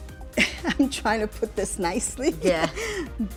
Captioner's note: laughter